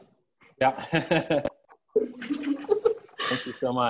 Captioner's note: laughing